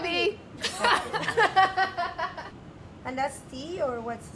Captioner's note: laughing